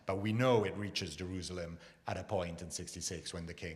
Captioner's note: none